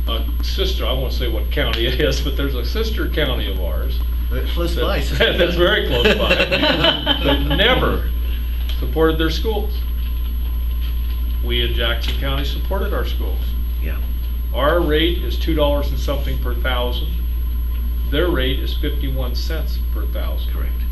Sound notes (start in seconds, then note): 7.7 laughter